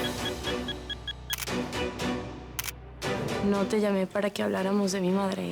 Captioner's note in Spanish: Click de la cámara